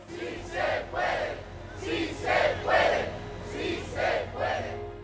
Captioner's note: group chants in Spanish